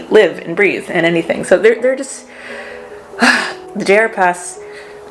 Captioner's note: sigh